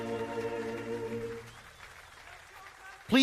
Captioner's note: cheering and Applause